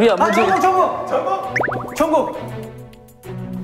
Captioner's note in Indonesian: Gugup